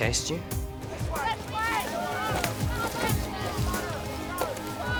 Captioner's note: yelling